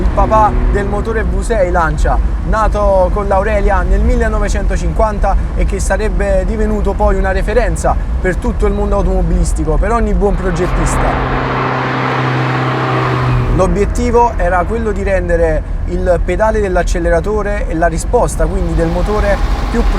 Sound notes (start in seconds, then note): 10.3 engine at full torque